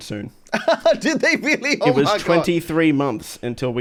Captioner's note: laughs